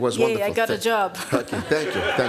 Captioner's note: audience laughs